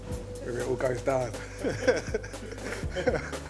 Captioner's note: laughs